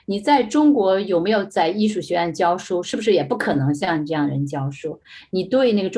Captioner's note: speaking in foreign language